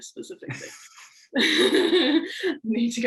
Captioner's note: laughing